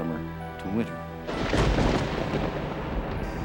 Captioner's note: thunder